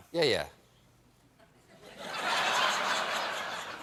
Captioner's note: laughter